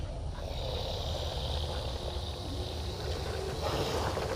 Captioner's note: creatures growling